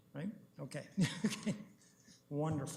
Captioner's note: chuckles